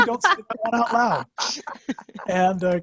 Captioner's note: background laughter